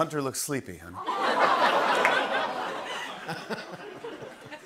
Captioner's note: laughter